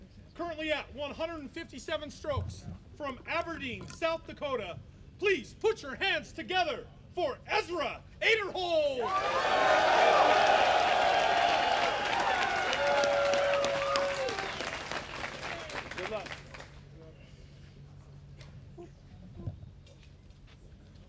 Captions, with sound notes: currently at 157 strokes from Aberdeen, South Dakota. Please put your hands together for Ezra Aderhold. [applause] -Good luck.